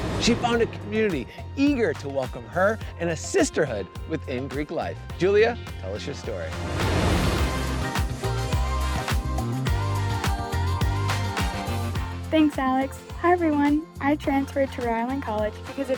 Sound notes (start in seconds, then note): 6.4 graphics whooshing; 7.5 upbeat music